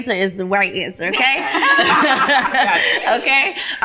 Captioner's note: ladies laughing